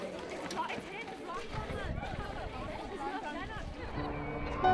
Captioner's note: people chattering; soft piano music